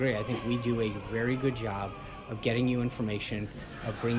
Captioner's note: laugh track